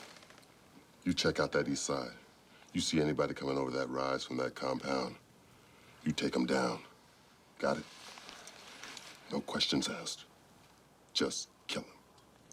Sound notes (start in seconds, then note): none